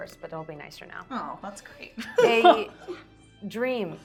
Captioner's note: laughing